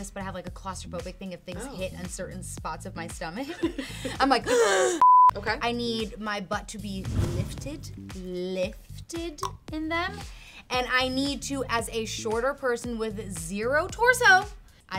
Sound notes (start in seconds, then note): 3.6 laughs; 4.4 gasps